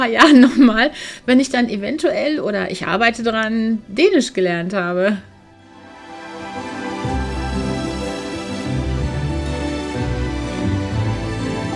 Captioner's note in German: gelächter